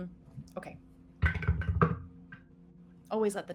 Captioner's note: dice rattling